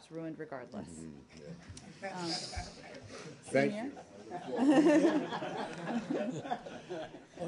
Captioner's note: laughter